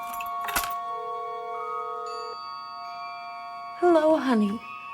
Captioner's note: cellphone ringing